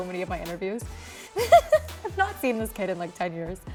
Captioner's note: laughing